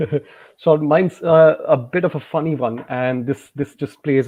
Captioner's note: giggles